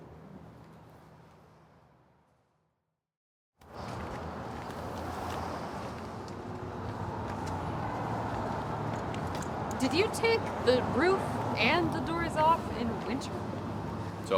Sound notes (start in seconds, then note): 3.7 traffic rumbles